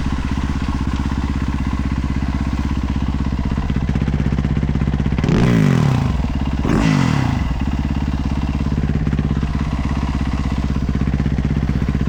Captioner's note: engine roaring